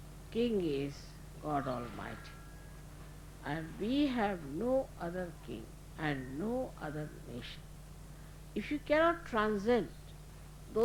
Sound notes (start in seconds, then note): none